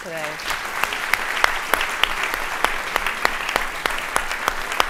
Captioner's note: audience applauding